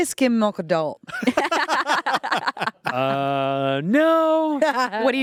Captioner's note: everyone laughs